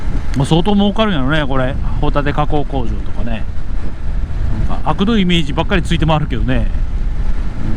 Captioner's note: laughs